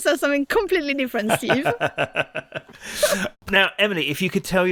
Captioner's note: laughs